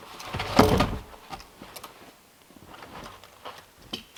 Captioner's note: log thumping